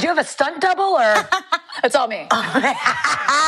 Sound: laughing

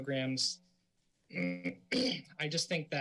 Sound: clears throat

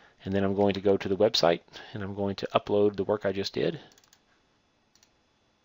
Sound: click; clicking

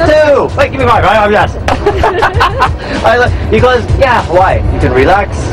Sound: speaking indonesian

